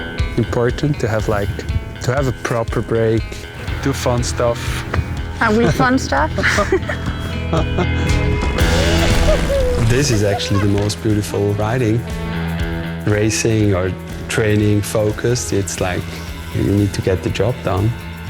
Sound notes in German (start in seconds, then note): 6.3 lacht; 8.5 jauchzen